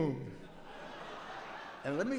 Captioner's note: audience laughs